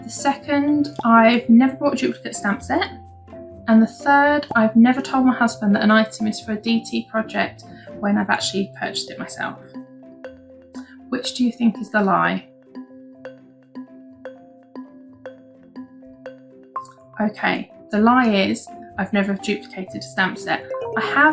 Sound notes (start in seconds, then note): 12.0 timer beeping